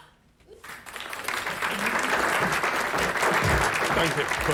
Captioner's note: applause